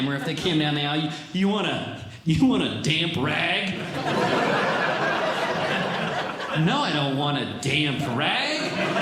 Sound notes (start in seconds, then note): 3.7 audience Laughing; 8.4 audience Laughing